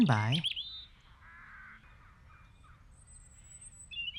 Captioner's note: birds chirp